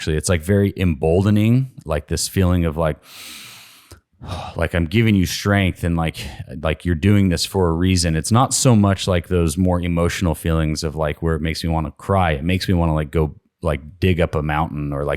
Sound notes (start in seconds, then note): 3.0 inhales